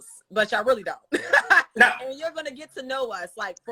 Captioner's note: Monique laughs